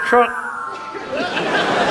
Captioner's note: whooshes; audience laughs